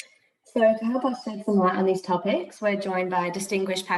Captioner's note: audio distorts